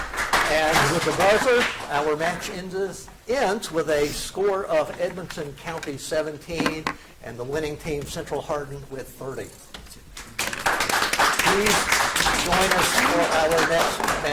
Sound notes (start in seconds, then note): 10.2 audience applauds